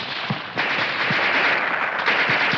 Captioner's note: machine gun fires